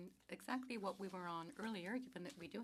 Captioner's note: speaking french